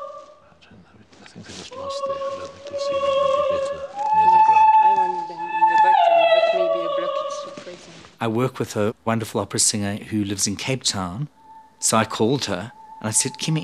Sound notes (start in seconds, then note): 1.5 both speaking quietly